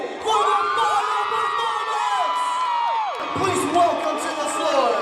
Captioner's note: people cheering